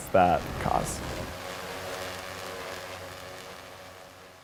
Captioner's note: drone buzzing